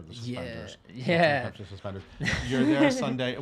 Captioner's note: laughs